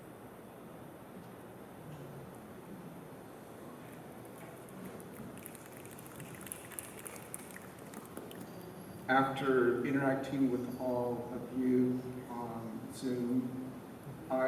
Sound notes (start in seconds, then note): 5.0 applause